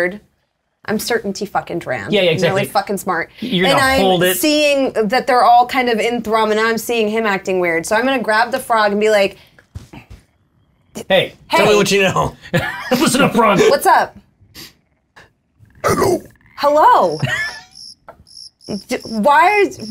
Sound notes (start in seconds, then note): 11.4 growling; 15.3 croakingly; 17.7 stammers